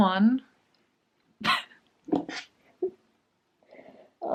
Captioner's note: laughs